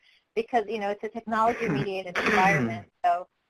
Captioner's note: coughs